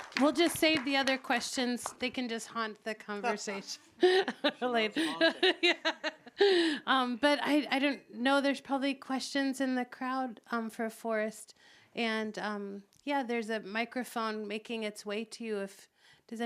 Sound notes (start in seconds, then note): 6.6 laughs